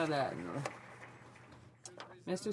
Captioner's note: speaking French